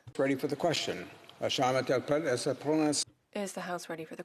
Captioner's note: speaking French